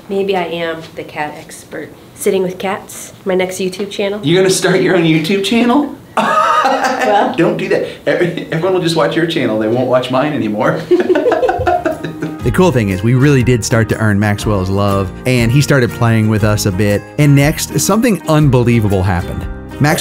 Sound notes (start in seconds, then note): 6.1 laughs; 10.8 laughs